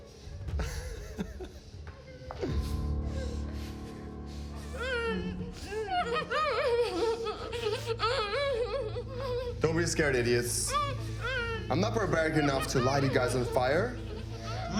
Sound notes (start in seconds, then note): 0.0 dramatic music; 0.6 Andre laughing; 4.7 victims groaning